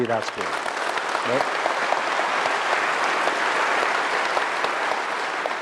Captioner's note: applause